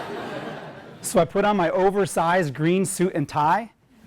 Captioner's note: laugh